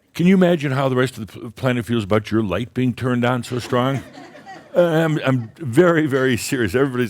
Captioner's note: some chuckles